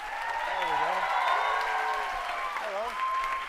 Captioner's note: cheering